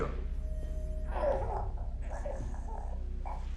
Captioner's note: muffled groans